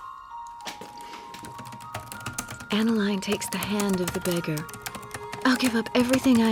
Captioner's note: typing resumes